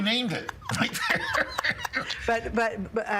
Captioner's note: both laughing